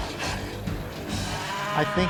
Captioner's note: moos